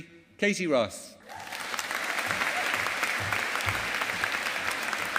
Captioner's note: audience applauding